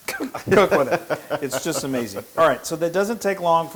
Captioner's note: laugh